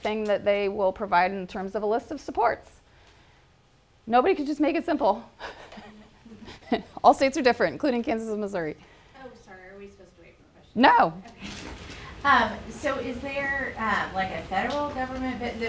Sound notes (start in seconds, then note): 5.4 laughter